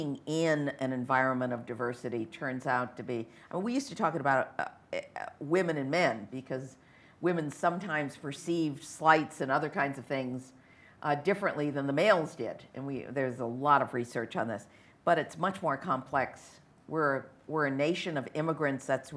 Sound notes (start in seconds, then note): none